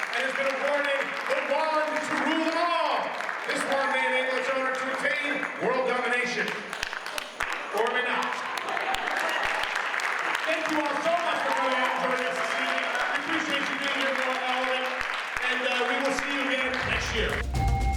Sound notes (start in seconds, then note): 9.2 audience applauds; 16.7 mystical music